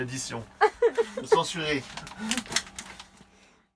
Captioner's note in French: rires